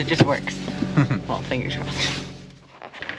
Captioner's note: chuckling